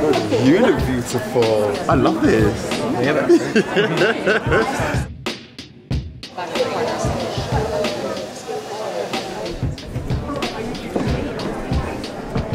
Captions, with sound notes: - You look beautiful! I love this! [laughing] [upbeat pop music] [chaotic crowd noise]